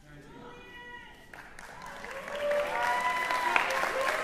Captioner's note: applause, cheering